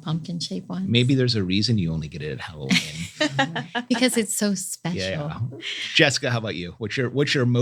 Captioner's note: laugh